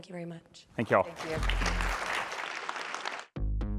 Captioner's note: applause